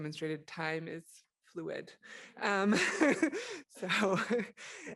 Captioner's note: chuckles; laughs